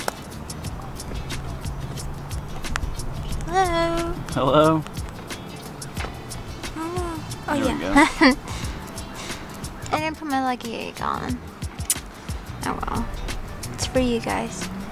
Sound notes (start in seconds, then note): 5.7 clicking screen in confusion; 9.1 gasp